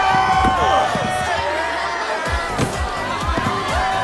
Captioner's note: grunting; cheering